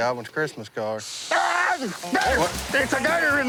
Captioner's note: screams